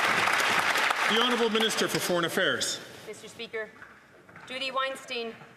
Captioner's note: some Applause